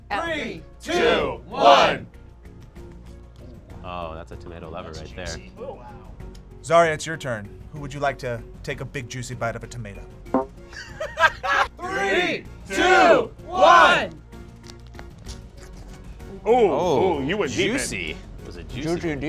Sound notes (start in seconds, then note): 10.7 laughs